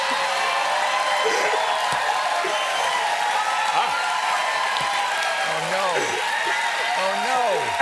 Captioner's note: cheers and applause